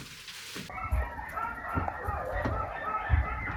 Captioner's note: dog barking